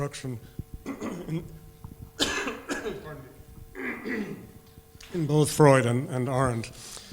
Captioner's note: coughs